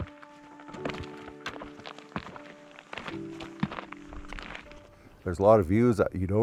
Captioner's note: footsteps crunching; peaceful music continues